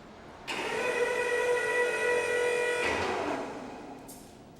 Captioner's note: forklift whirring